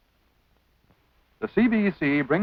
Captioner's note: silence